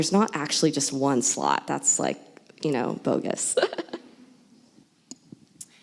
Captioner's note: laughs